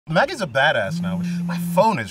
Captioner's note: phone hums